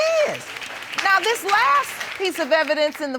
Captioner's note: audience applauding